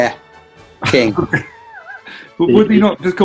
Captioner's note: laughing